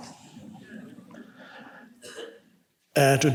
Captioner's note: congregation laughs